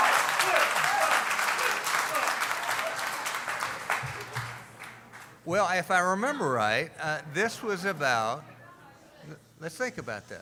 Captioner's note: cheering